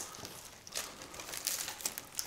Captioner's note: rustling